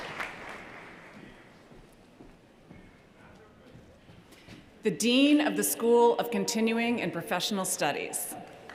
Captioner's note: cheers & applause